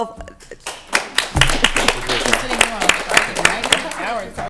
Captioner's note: applause